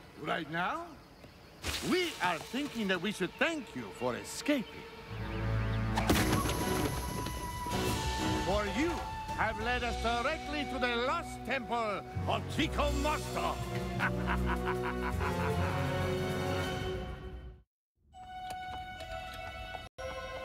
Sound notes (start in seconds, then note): 13.8 laughs